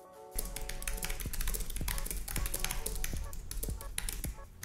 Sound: keyboard clicking

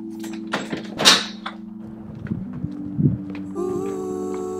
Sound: door slams

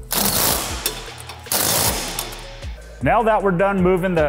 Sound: driver whirring

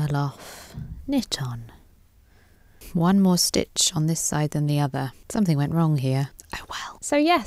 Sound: whispers

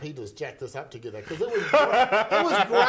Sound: laughing

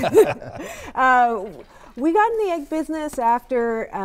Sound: laughter

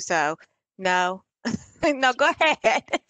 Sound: laughter

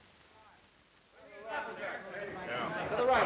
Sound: indistinct chatter

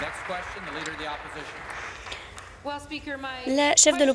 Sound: applause

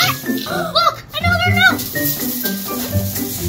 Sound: gasps

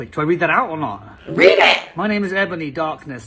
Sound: robotic voice

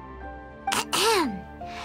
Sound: clears throat

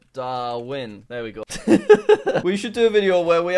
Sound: laughs

